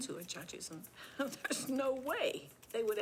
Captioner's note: laughs